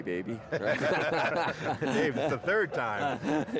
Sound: laughing

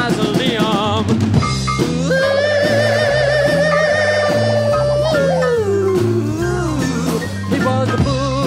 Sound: spooky Scream

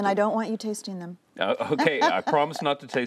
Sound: laughter

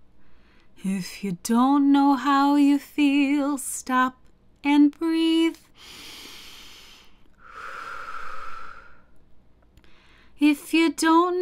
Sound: big breath in and out; big breath in and out

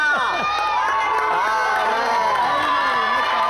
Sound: applause and cheering

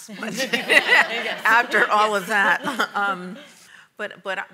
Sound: audience laughs

